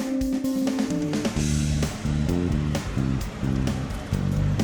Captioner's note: wind whooshes